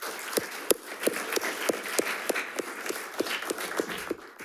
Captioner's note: attendees clapping